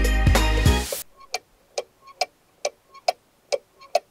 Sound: ticking sound

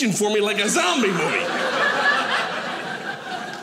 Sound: audience laughing

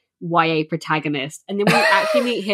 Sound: laughs

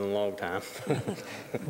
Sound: laughter

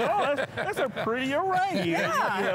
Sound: laughs

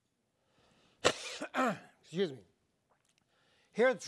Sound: coughs

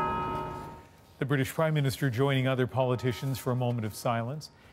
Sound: bells tolling

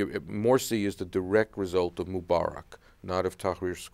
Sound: none

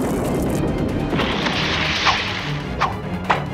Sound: splash

